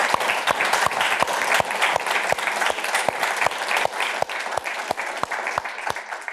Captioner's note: applause